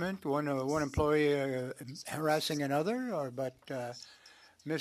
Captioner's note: speaking French